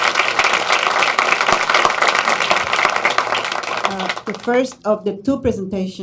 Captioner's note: applause